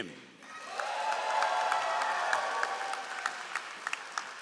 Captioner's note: all applauding